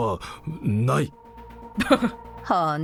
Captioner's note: chuckles